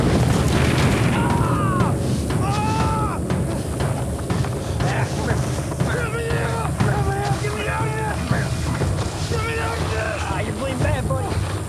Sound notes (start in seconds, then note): 1.1 yells; 2.4 groans